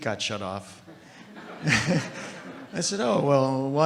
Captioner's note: audience laughing